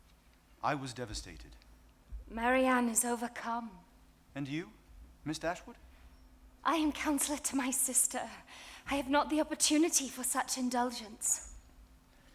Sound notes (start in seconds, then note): none